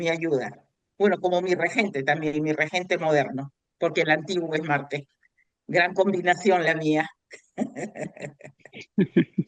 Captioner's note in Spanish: risas